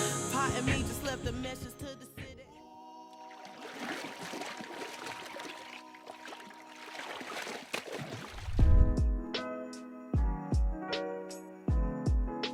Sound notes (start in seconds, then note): 3.2 water sloshing; 8.5 gentle music